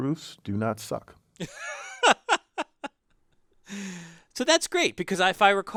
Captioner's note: laugh